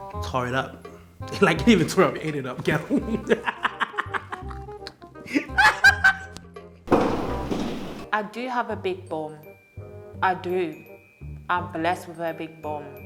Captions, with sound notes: tore it up it didnt even tear it up it ate it up girl (laughing) i do have a big bum I do I'm blessed with a big bum